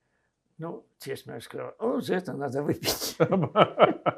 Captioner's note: laughing